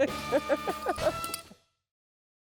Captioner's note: laughing